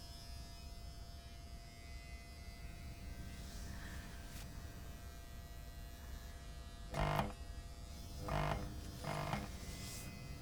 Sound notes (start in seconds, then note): 7.9 light buzzing